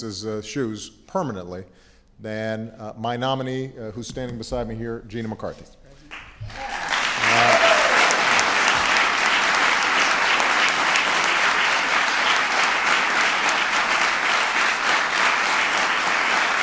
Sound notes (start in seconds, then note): 6.1 applause